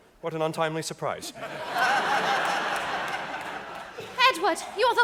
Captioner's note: audience laughing